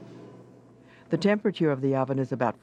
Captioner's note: voiceover